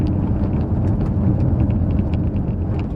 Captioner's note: road noise